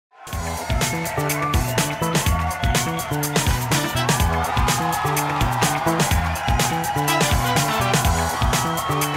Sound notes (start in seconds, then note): 0.1 audience cheering; 0.2 upbeat funk music